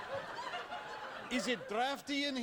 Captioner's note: cheering and Applause